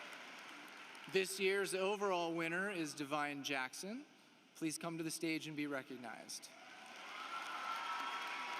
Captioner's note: applause